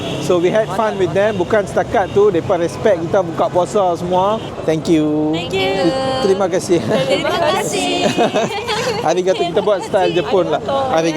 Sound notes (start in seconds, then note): 8.2 laugh